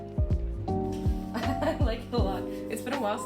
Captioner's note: laughing